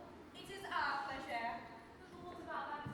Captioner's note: heavy French accent